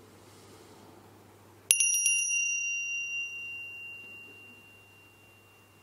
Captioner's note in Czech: zazvonění zvonku